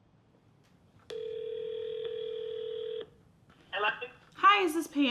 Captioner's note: phone ringing